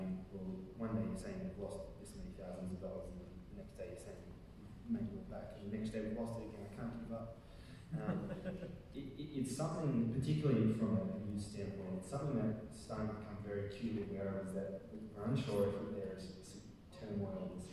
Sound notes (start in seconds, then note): 7.9 audience laughing